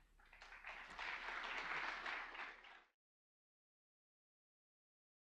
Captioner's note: applause